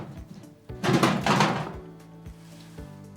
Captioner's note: clanging